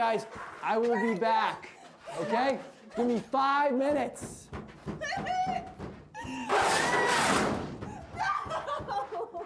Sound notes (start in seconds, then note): 4.2 door banging; 6.3 Isabel screaming; 6.3 door closes